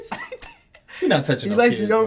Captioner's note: laughing